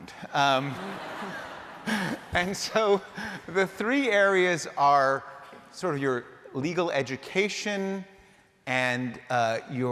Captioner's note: laughter